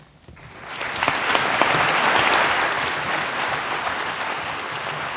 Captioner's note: audience applauding